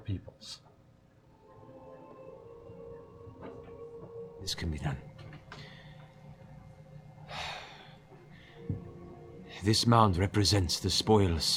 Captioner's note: sighs